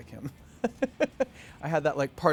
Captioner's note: laughing